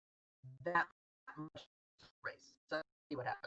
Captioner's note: audio cuts out